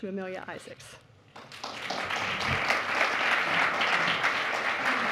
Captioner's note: applause